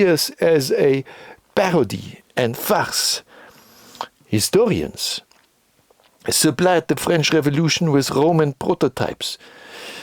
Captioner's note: French